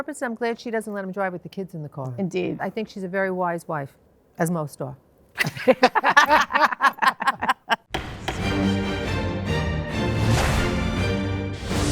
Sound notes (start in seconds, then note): 5.4 all laugh; 7.9 dramatic music